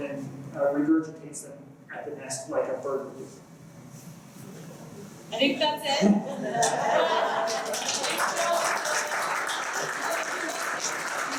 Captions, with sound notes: then regurgitates then at the nest like a bird would. I think that's it. [LAUGHTER] [APPLAUSE] Thank you all so much.